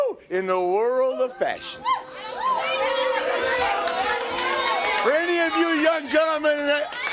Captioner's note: crowd cheering